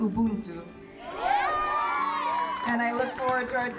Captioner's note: audience cheering